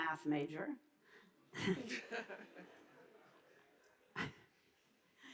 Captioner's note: audience laughing